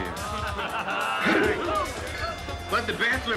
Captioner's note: hoot together